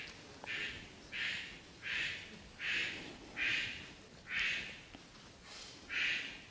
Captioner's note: A bird cawing loudly